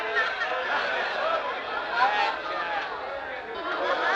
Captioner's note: crowd clamoring